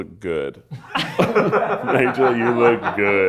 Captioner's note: everyone laughs